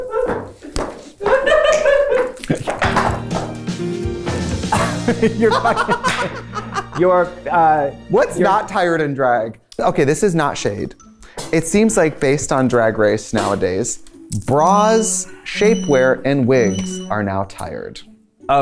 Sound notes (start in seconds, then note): 1.2 laughs; 4.7 laughing